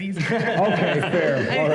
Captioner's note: laughter